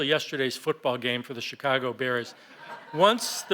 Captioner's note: laughter